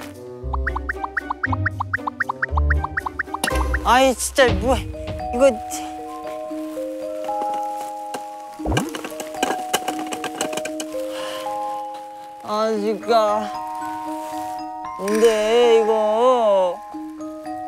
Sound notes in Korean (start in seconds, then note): 8.5 뒤적